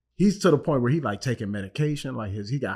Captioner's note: none